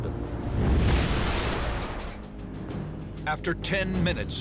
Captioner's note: plane crashing